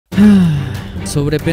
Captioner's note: sighs, tired of the topic